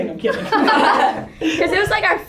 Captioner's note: laughter by all